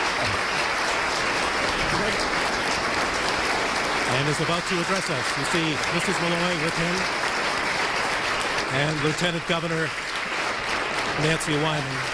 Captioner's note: applause